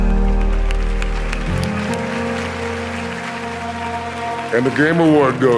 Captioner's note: audience applause